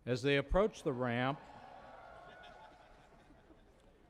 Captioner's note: cheering